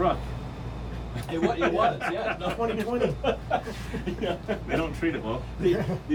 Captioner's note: men laughing